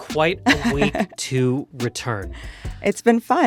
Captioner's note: chuckles